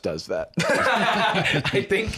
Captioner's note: both laugh